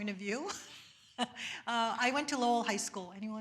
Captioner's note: laughs